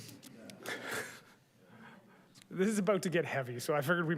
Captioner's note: chuckles